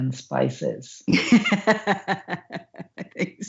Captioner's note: laughs